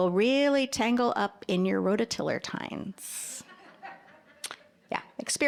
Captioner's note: audience laughing